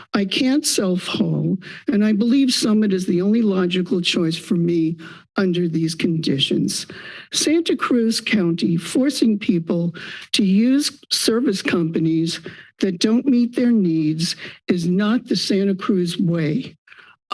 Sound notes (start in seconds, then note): 6.9 inhales